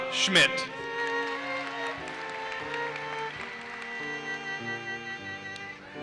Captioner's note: audience applauses